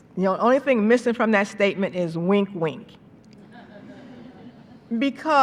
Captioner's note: laughter